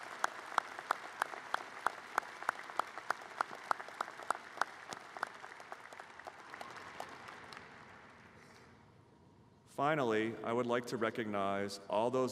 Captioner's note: applause